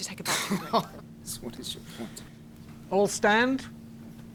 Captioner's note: laughing